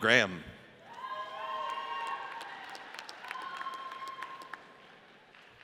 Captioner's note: audience cheers